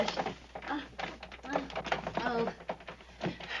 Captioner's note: door sticking